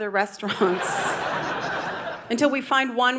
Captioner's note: audience laughing